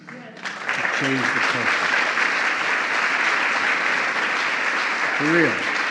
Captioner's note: applause